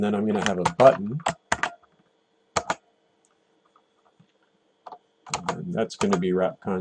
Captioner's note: typing